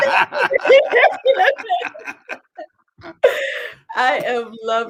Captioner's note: laughter